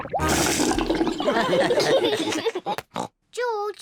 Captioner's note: gargles; all laugh